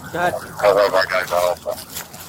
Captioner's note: radio chatter